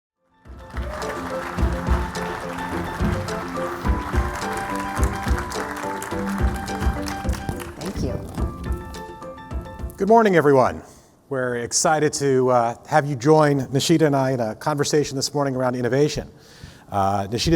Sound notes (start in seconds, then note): 0.4 upbeat music; 0.5 audience applauding